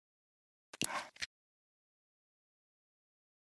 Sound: click

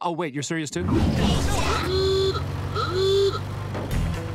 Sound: honking

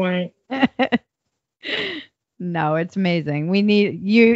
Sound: laughs

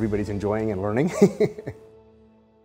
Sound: laughs

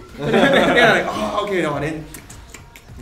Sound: chews

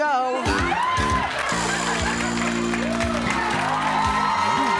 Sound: applauding and cheering

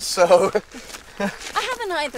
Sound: tourist chuckles

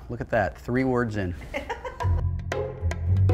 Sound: laughter

